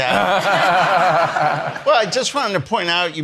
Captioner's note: attendees laughing